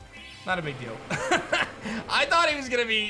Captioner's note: chuckles